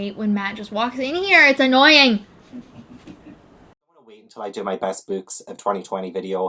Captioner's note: laughs